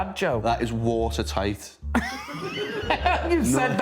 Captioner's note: laughing